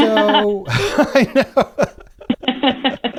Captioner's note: laughter